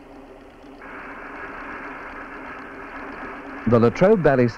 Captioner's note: sound of machinery